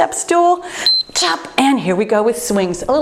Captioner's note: timer beeps